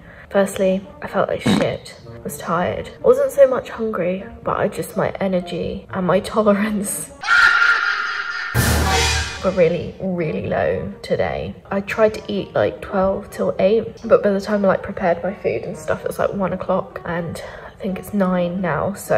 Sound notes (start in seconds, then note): 1.4 fart noise; 7.2 scary noise; 7.4 evil laugh